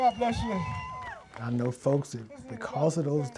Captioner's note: audience cheers